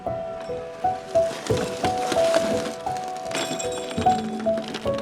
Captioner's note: water softly splashing